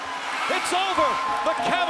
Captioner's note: buzzer sounding